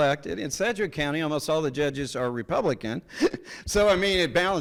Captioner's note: laughs